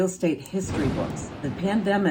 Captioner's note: explosion